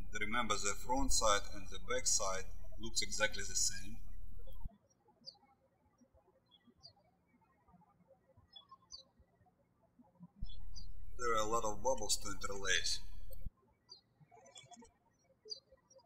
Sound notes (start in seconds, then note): 4.7 birds chirping; 13.7 birds chirping